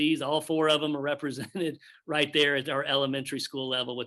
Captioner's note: chuckles